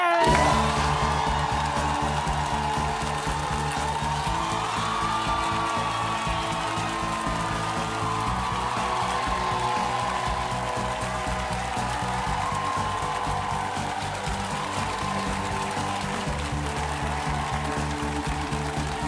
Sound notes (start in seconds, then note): 2.7 cheers and applause